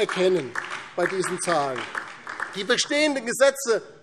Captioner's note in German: Beifall DIE LINKE